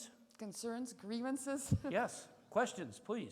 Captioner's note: chuckles